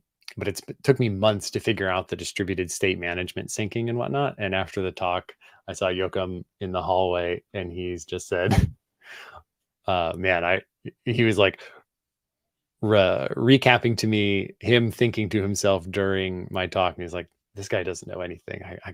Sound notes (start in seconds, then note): 8.5 chuckles